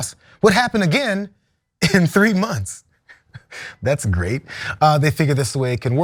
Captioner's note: laugh